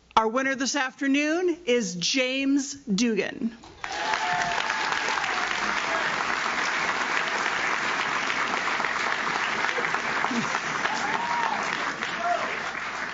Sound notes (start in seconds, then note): 3.7 audience claps; 3.7 audience cheers